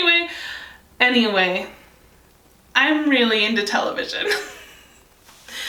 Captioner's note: deep breathe; laughs